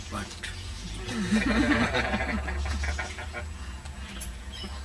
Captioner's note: laughter